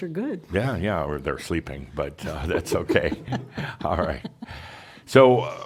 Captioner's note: chuckles